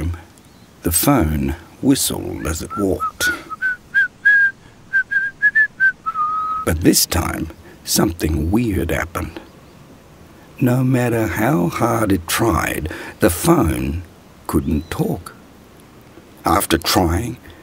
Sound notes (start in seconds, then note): 4.8 whistling